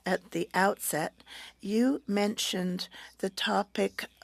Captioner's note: speaking French